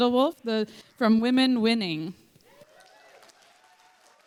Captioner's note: applause